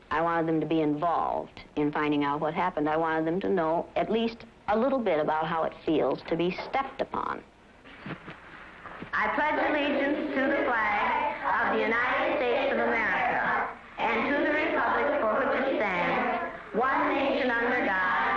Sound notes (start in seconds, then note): 8.3 class recites